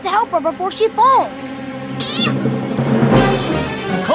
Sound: meowing

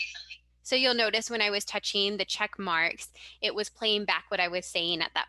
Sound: audio recording playback

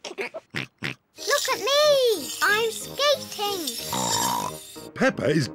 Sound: snorts

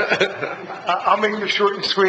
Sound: laughing

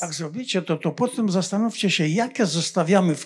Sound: foreign language

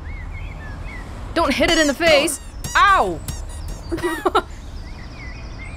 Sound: chuckles

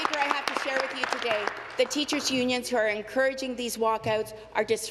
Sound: applause

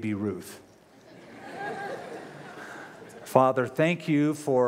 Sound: laughter

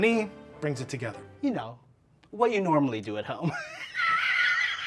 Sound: laughs

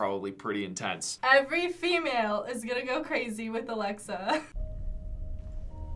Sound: chuckles

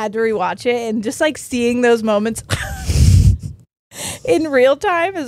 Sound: both laughing

